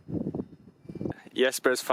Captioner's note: wind